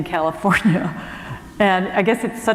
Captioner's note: chuckle